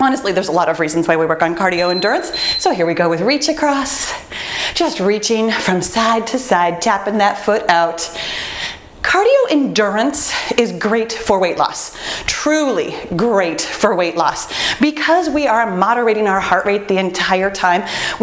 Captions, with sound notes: honestly, there's a lot of reasons why we work on cardio endurance, (timer beeps) so here we go with reach across, just reaching from side to side, tapping that foot out. Cardio endurance is great for weight loss, truly great for weight loss. Because we are moderating our heart rate the entire time,